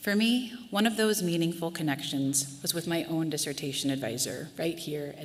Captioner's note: none